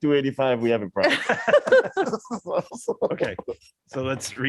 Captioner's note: laughter